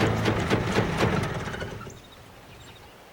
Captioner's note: stopping of engine; twittering of bird